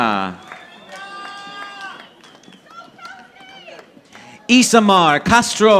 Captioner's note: audience applauding